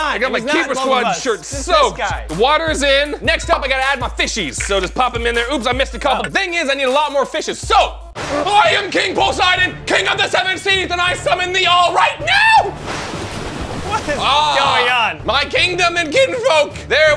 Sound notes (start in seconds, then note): 12.7 waves splashing